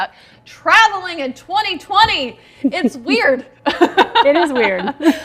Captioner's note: laughs loudly; laughs